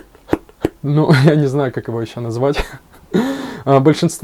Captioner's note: laughs